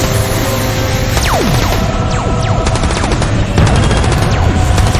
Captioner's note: lasers blasting